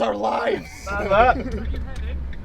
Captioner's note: group laughing